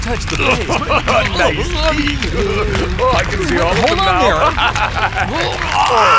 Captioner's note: laughs